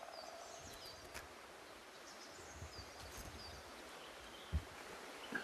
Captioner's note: chirping continues